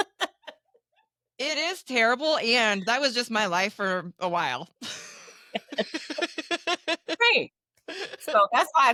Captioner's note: laughing